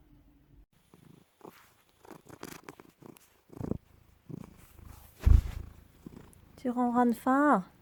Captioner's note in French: très fort ronronnements près du micro